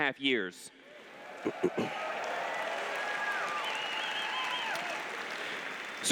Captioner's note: applause